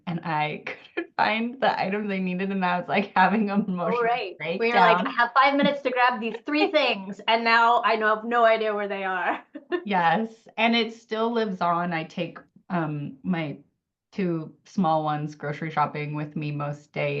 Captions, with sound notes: and I couldn't find the items I needed. And now it's like having emotions. - You're right. We're like, I have five minutes to grab these three things and now I know I have no idea where they are. (laughs) - Yes, and it still lives on. I take my two small ones grocery shopping with me most days,